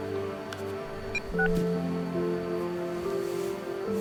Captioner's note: phone beeps